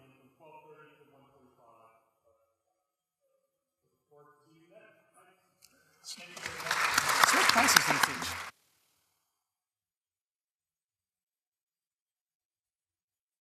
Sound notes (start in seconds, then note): 6.0 audience applauding